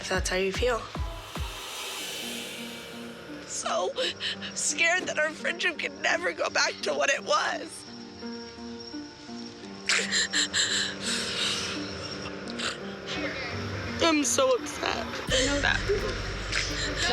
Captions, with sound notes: - If that's how you feel. (voice breaking) I'm so scared that our friendship can never go back to what it was. (sobbing) I'm so upset. - I know that.